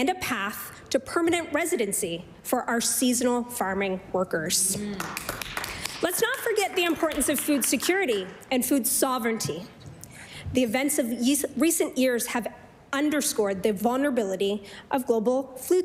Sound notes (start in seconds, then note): 8.2 applause